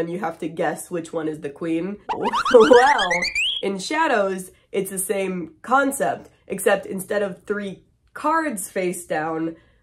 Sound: wacky sound effects

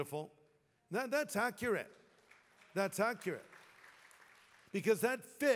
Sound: applause

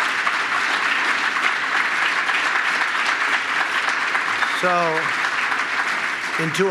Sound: applause

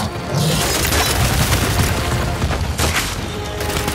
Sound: gunshots

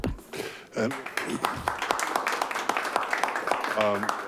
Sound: clapping

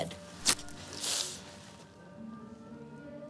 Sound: both hiss

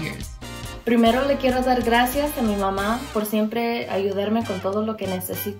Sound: speaks in foreign language

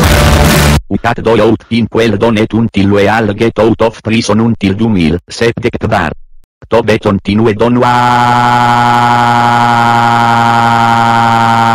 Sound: angry in Esperanto

